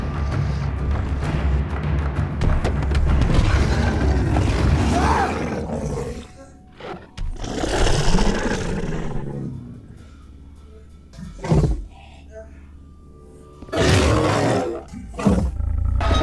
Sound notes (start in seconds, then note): 2.4 Rob thudding to floor; 3.2 creature growling loudly; 3.6 Rob shrieking; 12.6 creature growling loudly